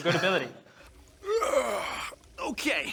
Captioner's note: yawn